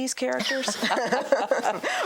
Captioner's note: both laugh